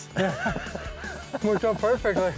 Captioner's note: laughing